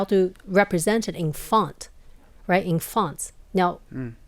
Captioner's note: none